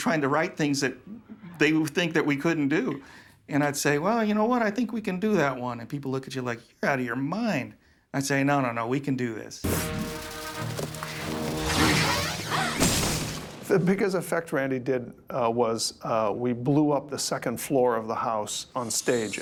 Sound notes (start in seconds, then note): 9.6 dramatic theme playing; 11.7 gasps